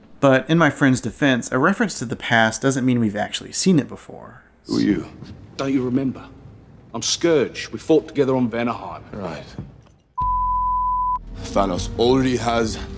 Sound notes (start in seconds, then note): 10.2 tone